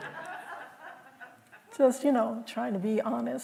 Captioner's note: laughter